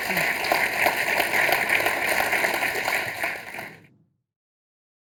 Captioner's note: audience applauding